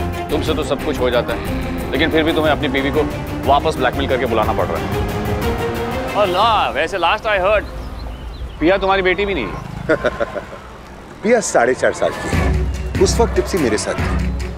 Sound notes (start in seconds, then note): 9.4 Laughs